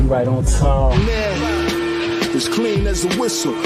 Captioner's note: voiceover